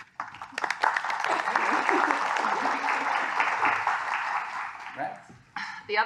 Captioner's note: applause